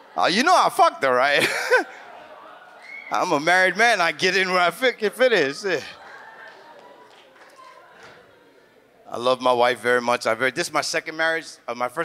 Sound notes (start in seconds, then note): 1.2 laughs; 5.3 audience laughs